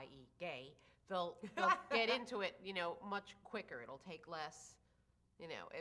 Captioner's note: laughs